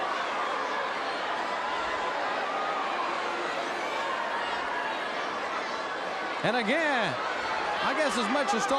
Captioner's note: crowd cheering